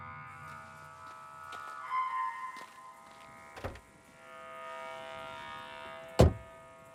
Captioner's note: insects chirping; grass crunching; door slamming